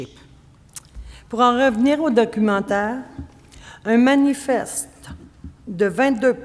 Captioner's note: speaking French